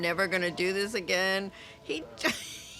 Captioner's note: laughs